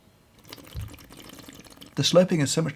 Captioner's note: slurping